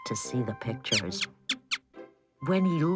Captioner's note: mouse squeaking